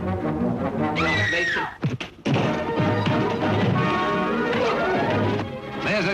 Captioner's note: woman screams